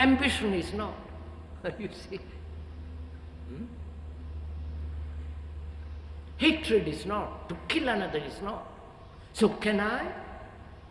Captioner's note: laughs